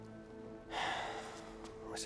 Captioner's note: sigh